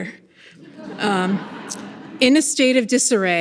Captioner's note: people laughing